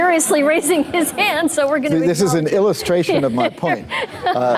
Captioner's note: laughter